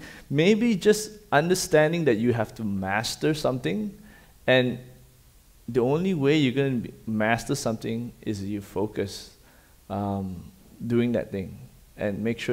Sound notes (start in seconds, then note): none